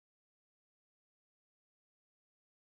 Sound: none

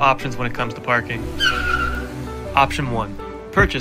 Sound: tires screeching

